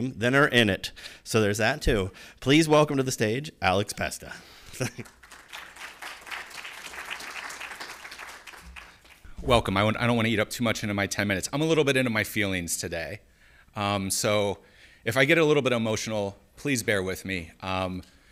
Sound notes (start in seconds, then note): 4.7 applause